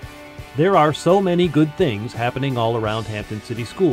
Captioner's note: voiceover